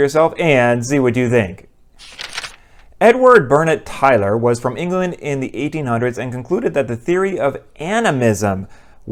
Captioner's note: page turn